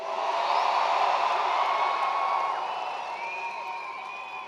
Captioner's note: attendees cheering